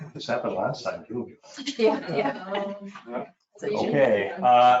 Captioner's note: people chuckle